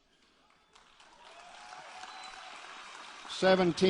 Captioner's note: applause